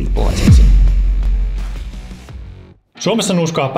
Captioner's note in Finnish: siirtymä-äänitehoste